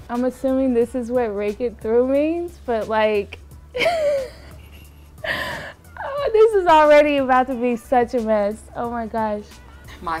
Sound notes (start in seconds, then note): 3.7 laughter